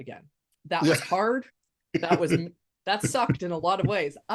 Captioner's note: laughs